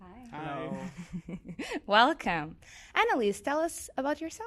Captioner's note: laughs